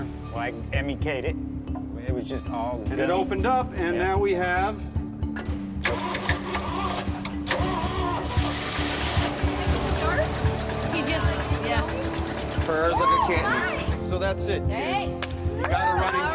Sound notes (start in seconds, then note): 6.2 engine sputtering; 7.9 engine turns over